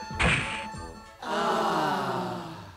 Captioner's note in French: Aaaah!